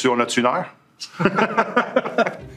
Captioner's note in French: rires